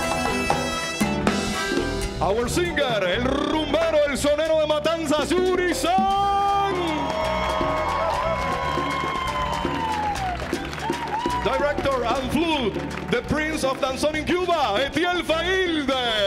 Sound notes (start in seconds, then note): 3.1 speaking Spanish; 5.9 audience cheering